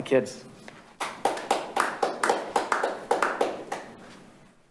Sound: audience clapping

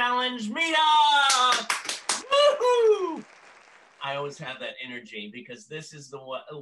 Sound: applause

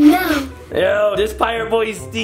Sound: sniffs

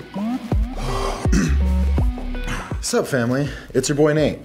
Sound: cough

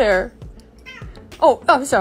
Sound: angry meow

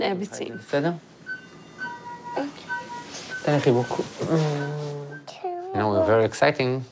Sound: indistinct chatter

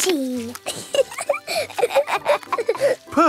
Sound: both laughing

